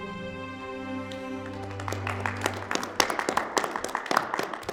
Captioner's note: applauding